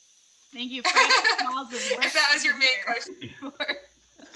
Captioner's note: laughs